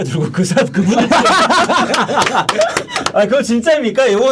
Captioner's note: laughing